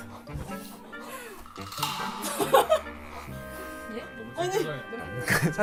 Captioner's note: sniffs without caring about others watching